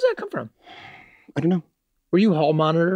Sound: sighs

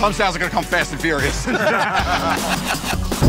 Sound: laughter

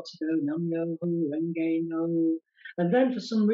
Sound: chanting

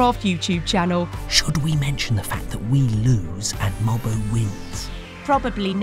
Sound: narrator, whispering

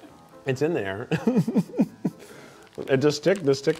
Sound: laughs

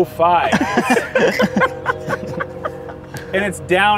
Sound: laughter

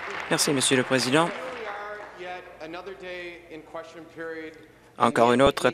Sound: applause

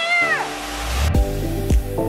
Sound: waterfall flowing; upbeat music

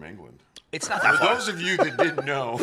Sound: laughs

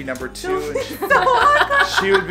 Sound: laughing

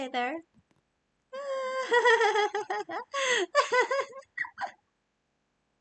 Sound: giggles

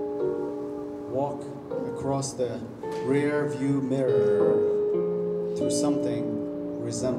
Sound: none

